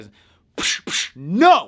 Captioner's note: fake slapping noise